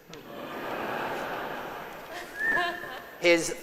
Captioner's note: congregation laughs